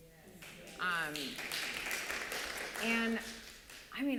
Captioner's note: applause